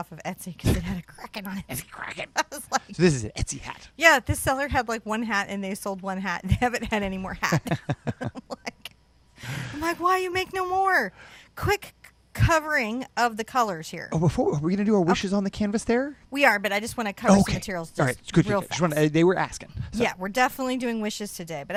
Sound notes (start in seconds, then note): 2.5 laughing; 7.4 both laughing